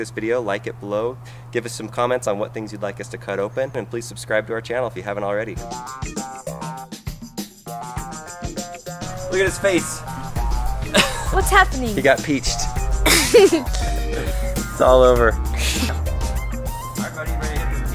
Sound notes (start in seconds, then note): 6.0 funky music; 10.7 laughs; 13.0 laughs